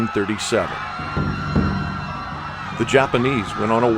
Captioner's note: people screaming